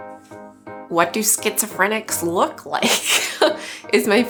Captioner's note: laughs